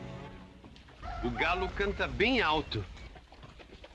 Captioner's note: rooster crows